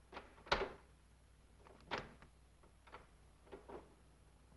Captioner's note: doorknob rattles